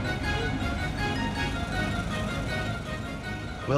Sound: car engine roaring

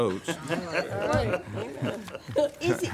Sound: laughing

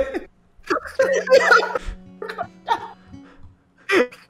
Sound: laughter

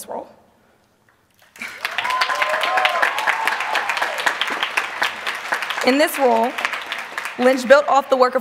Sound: applause

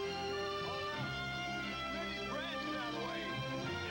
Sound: none

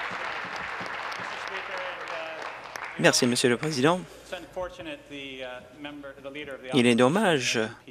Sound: cheers; applause

